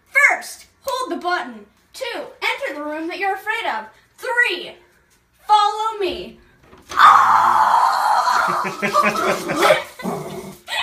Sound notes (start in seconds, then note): 6.9 screaming; 8.4 dad laughing behind the camera